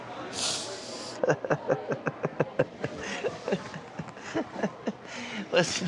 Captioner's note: tearfully chuckles